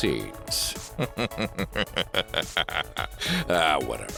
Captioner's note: evil Wesker laugh